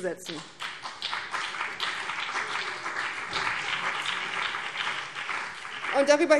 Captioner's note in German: Beifall BÜNDNIS 90/DIE GRÜNEN